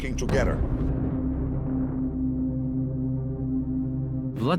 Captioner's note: boom echoes